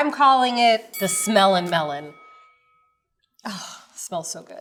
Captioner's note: bell dings